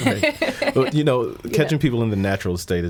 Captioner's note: laughing